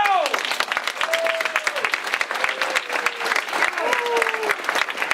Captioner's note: clapping and cheering